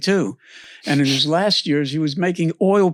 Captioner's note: laughs